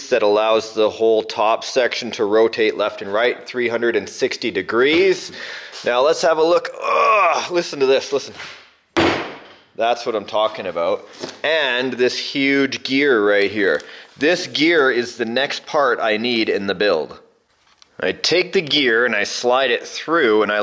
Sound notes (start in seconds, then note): 6.7 grunts; 9.0 heavy slam